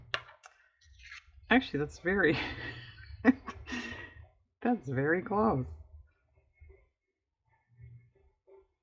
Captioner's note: laughs